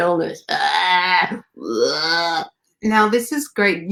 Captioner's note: gagging and croaking